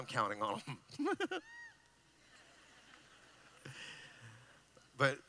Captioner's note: laughing